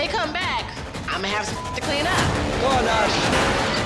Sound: beep

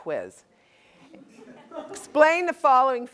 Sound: laugh

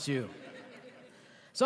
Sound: laughter

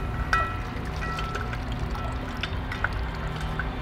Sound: water gurgles

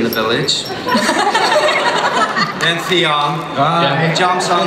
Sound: laughter

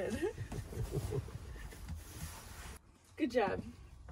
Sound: laughing

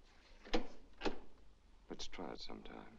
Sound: door opens

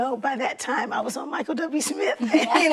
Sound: laughter

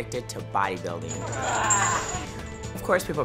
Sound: grunts

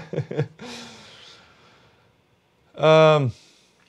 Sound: laughs

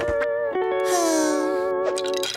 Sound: sighing

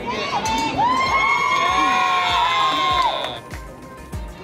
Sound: audience cheers

